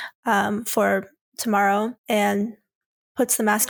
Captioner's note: none